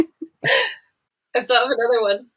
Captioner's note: laughs